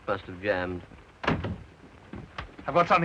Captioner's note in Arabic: يغلق الباب